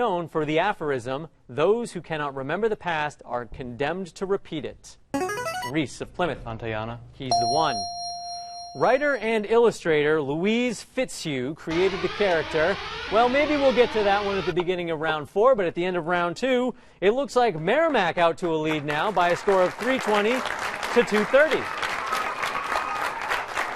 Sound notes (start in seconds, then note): 5.1 ringer; 7.3 ding; 11.7 alarm whirring